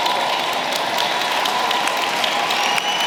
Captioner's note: applause